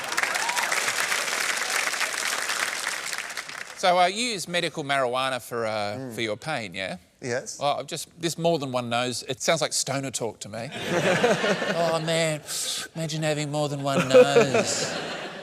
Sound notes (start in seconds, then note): 0.0 cheering and applause; 10.7 laughter